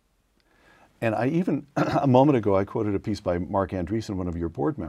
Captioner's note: cough